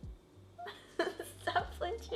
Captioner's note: laughs